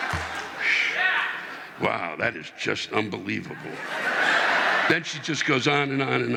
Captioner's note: audience laughing